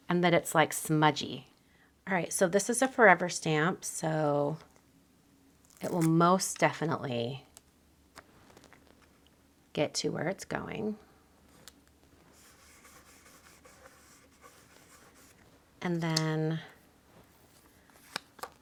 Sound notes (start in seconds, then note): 12.3 finger scrubbing